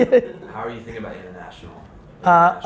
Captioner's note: laughing